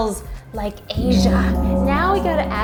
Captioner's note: gong Sounds